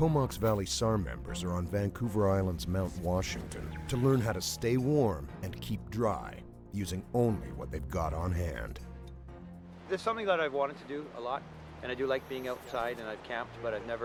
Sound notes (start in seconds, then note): 9.0 voiceover